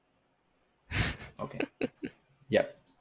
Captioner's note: laughter